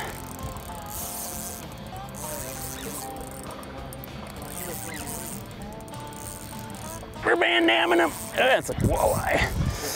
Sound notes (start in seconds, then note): 0.0 fishing line whirring; 7.3 straining